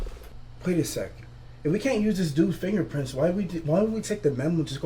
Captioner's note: none